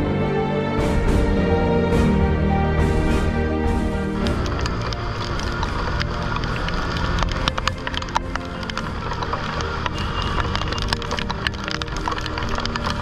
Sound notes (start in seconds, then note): 3.6 raindrops falling